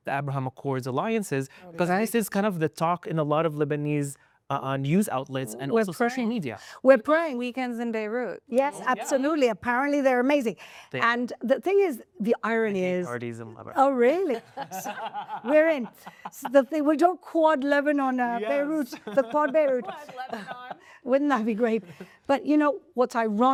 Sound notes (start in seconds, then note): 15.2 laughing